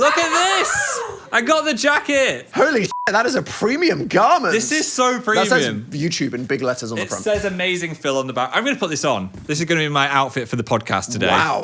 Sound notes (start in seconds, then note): 2.8 beep